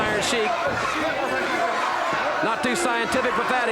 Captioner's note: audience chanting